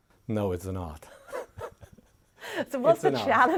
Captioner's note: laughs